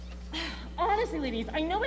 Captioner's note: Mrs. Thompson sighs